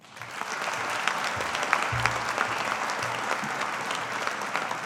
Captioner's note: audience applauding